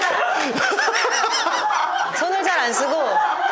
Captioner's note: cracking up